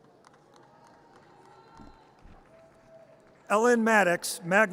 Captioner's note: audience applause